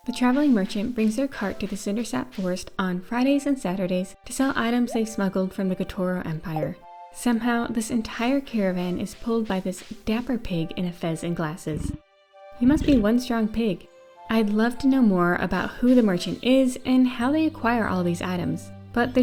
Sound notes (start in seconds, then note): 12.6 pig oinks